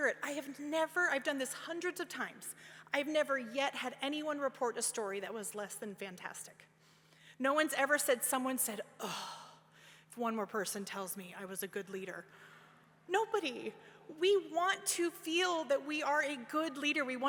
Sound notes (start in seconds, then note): none